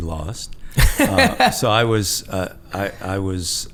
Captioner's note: laughing